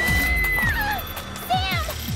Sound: scream

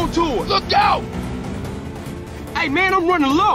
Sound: drive-by car drives away

